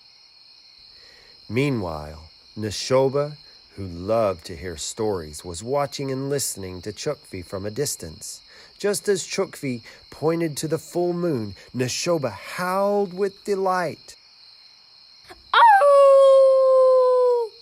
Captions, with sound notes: Meanwhile Nashoba, who loved to hear stories, was watching and listening to Chukfi from a distance. Just as Chukfi pointed to the full moon, Nashoba howled with delight. (Howl)